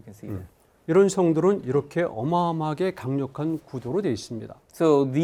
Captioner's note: speaking in Korean